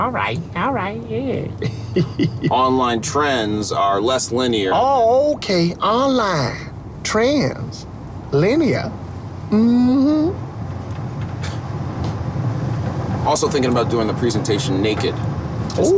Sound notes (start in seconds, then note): 1.6 driver laughs; 11.6 passenger scoffs